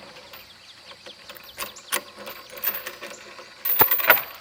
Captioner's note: chains loosening